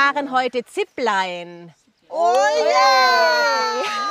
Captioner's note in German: Jubel